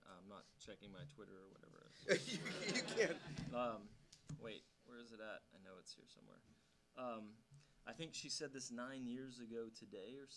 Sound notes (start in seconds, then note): 2.1 audience laughing